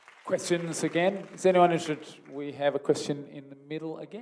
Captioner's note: applause